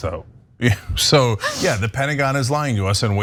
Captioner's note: laugh